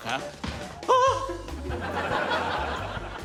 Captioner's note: whimpers